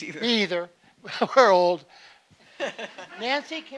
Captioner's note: laughing